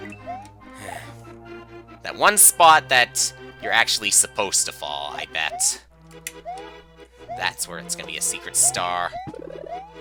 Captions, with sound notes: (*sigh*) That one spot that... ...you're actually supposed to fall, I bet. That's where it's gonna be a Secret Star.